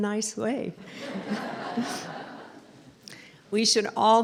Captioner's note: laughter